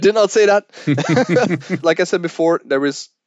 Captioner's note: both laughing